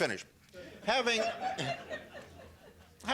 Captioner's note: laughter